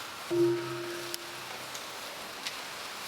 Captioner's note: bell ringing